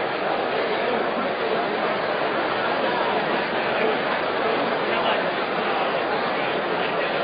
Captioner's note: rumbling crowd noise